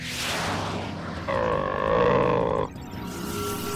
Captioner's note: growling; electric static